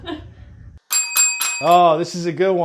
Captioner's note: chuckles; bells dinging